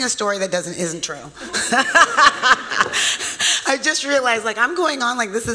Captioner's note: laughs